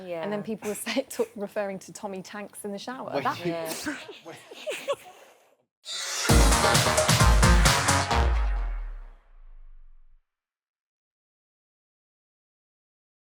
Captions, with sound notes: And then people were referring to ‘tommy tanks’ in the shower. [LAUGHING]